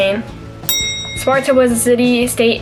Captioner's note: bell ring